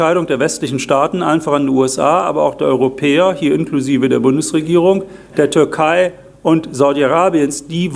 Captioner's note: German